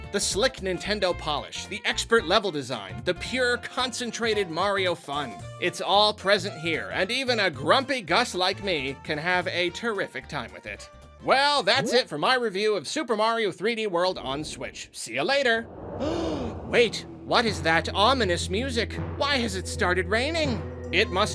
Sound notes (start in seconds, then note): 16.0 gasp